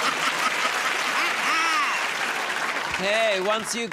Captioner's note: laughter; laughs; cheers and applause